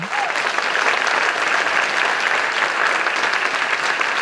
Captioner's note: applause